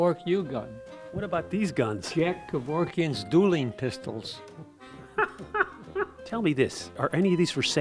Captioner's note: laughs